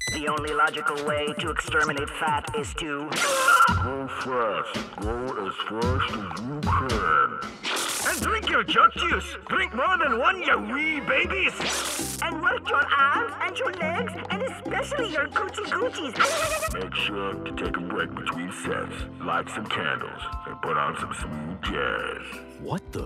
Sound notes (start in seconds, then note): 3.2 screams; 8.1 in scottish accent